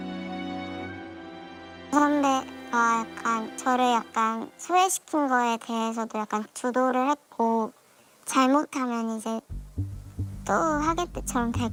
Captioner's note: voiceover